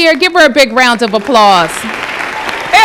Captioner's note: applause